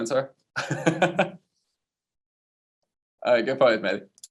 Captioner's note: laughing